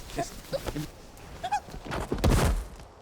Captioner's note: squeals